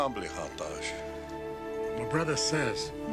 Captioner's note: speaking in other language